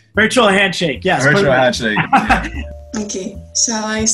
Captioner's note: laughs